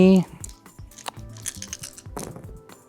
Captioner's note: dice rattling; dice rolling